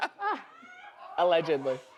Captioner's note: audience laughs